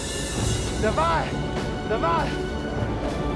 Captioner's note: speaking Russian